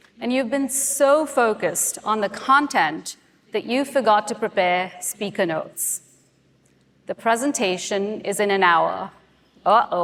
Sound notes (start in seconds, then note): none